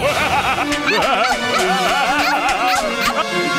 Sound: evil laughter

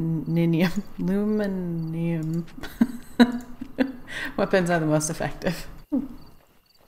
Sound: laughs

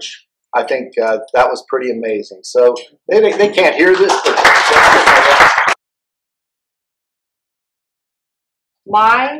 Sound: applause

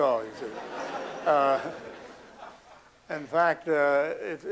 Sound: laughter

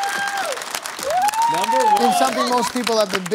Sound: cheering

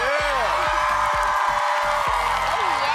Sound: cheering

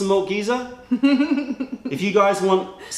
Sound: laughter

